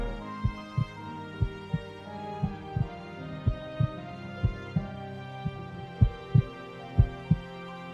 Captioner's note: heart Beating